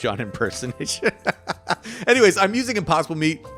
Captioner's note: laughing